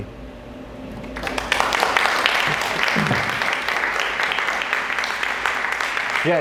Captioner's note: appluase